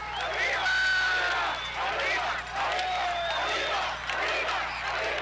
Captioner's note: crowd cheering